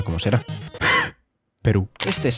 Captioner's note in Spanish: gasps